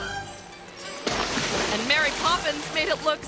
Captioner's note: tense playful music; water sploshes